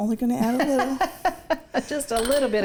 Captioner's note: laughing